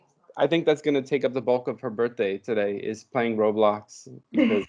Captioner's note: laughter